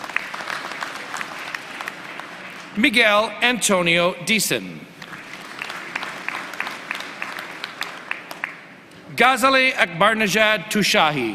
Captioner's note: applause